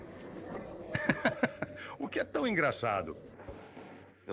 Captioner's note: laughter